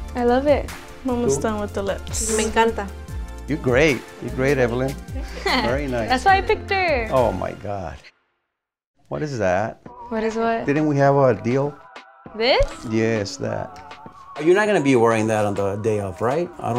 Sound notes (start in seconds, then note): 2.6 speaking Spanish; 5.2 laughs